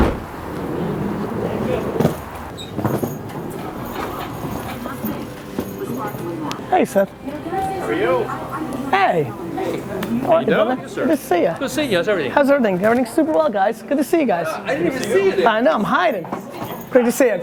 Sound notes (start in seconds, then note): 7.4 voiceover